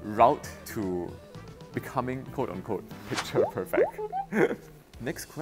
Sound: laughs

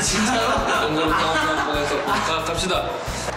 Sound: laughing at sudden confession

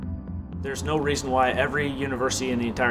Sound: voiceover

